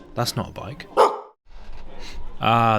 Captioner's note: woof!